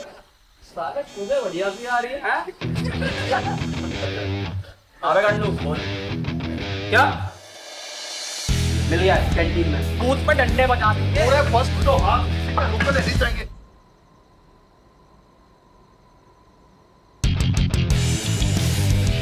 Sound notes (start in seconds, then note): 2.9 Phone ringing